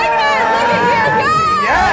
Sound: cheering

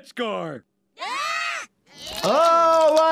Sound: screaming

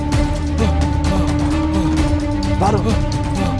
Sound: sighs

